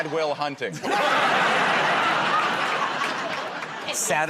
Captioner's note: laughter